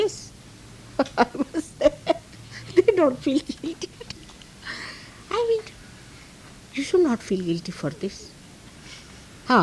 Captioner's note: laughs